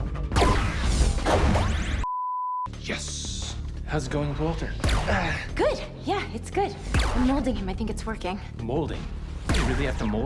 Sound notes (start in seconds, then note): 2.0 system beeps; 4.7 grunts